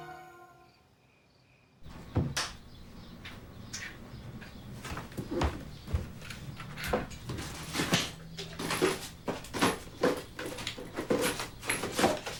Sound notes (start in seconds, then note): 3.2 birds chirping; 5.1 footsteps thudding